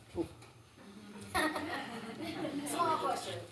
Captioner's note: laughter